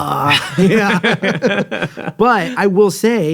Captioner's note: both chuckling